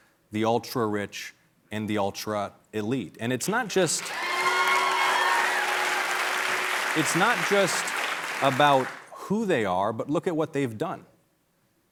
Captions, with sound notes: THE ULTRARICH AND THE ULTRA-ELITE. [CHEERS AND APPLAUSE] IT'S NOT JUST ABOUT WHO THEY ARE. BUT LOOK AT WHAT THEY'VE DONE.